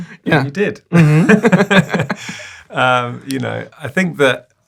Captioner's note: both laughing